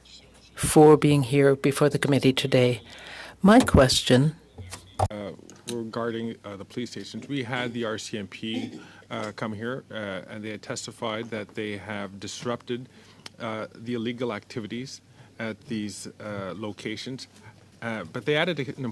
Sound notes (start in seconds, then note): 2.3 speaking French